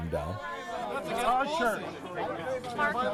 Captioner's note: indistinct shouting